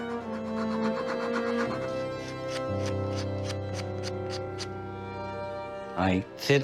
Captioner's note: wood file scraping seat